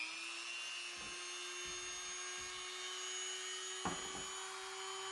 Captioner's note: Dremel buzzing